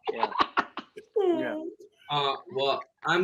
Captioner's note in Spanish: riendo